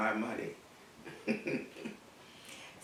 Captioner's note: laugh